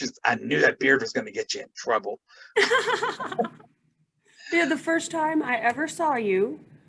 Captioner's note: laughs